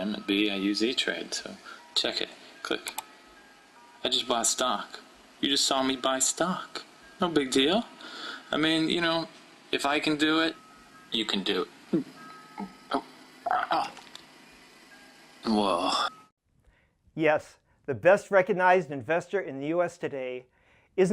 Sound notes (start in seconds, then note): 13.4 burp; 13.8 hiccup